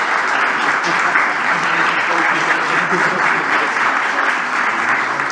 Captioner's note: applause